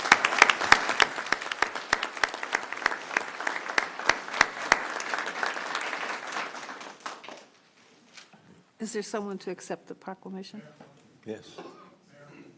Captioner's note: applause